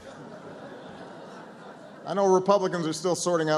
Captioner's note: laughter